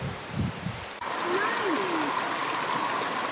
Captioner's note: water running